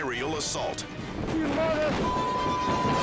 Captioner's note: beep